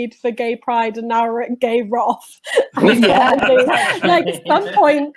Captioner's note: laughter